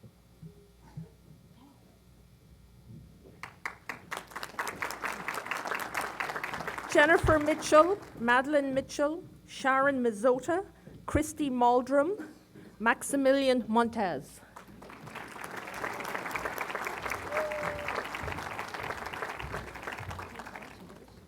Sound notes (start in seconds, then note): 3.4 applause; 14.5 applause